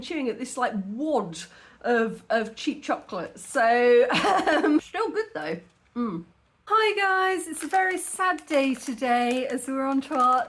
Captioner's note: laughing